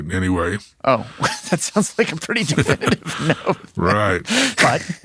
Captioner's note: laughs